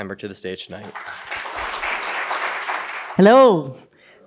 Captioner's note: audience applauds